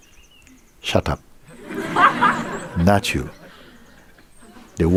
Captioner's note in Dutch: gelach